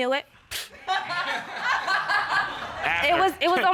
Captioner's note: audience laughs